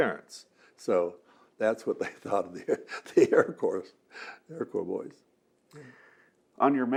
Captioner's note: laughing